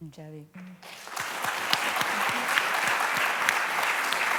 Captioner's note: applause